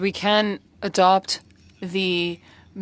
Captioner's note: speaking French